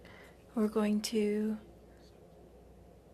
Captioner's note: speaking in French